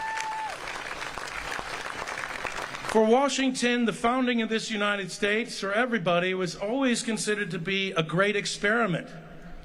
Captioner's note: applause